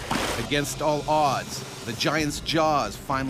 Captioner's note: voiceover